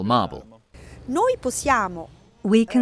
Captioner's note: speaking in foreign language